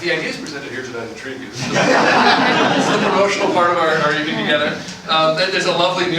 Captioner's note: laughter